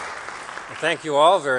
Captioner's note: applause